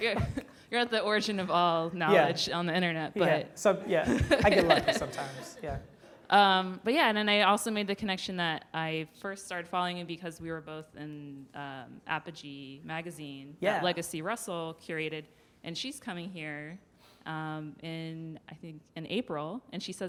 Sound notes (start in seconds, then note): 3.9 laughs